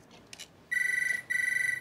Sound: phone rings

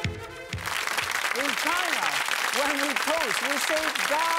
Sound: audience applause

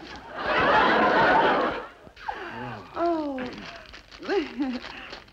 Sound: crowd laughs

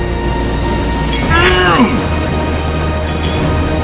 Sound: grunting

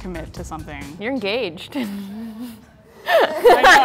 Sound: laughter

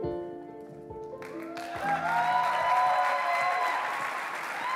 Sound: applause

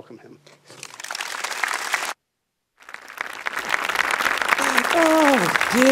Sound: applause

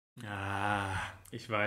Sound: moans

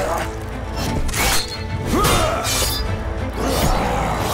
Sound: grunting

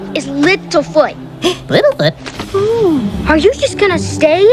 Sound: gasps

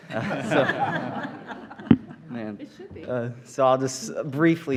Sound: laughter

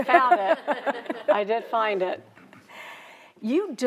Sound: crowd laughing

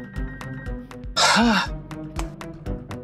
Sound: sighs

